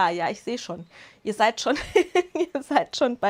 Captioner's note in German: Lachen